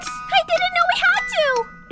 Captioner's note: none